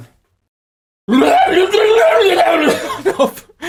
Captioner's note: tasmanian devil impression